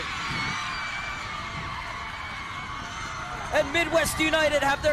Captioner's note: crowd cheering